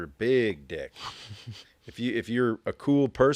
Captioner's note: host laughing